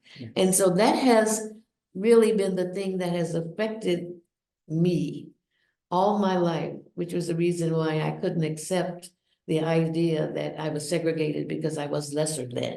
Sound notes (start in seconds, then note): none